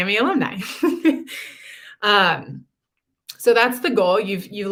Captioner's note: laughter